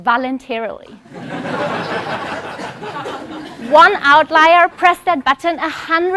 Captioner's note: laugh